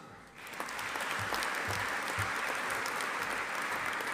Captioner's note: audience applauding